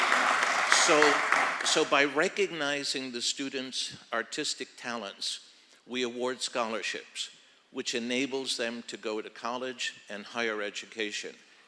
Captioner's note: applause